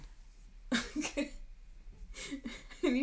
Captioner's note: laughing